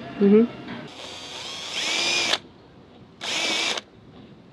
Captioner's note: drill grinding